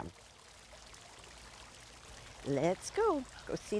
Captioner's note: water running